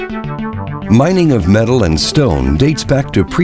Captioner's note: voiceover